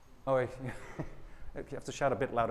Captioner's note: softly laughs